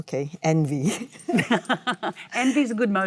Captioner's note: Michelle and Cate laugh